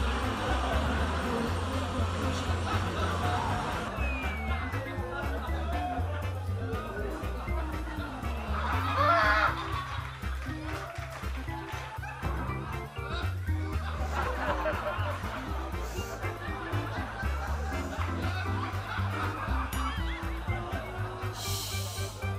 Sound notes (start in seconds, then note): 7.6 faint laughing sound; 9.7 faint audience cheering; 12.3 muffled laughter; 19.7 toing sound